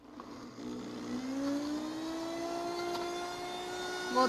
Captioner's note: blender roaring